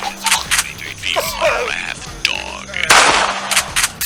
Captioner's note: coughing